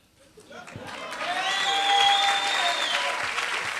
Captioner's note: applause